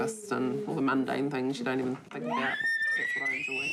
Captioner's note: baby shrieks